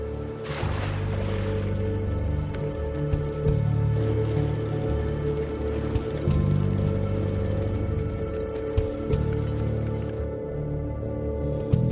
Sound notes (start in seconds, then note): 0.1 water splashing